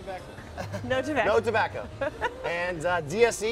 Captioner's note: laughter